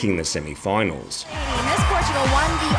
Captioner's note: audience applauds